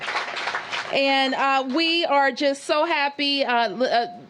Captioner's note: applause